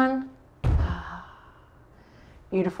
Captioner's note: thuds on floor